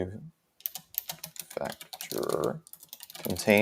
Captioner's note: keyboard typing